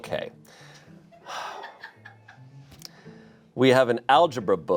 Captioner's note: sighs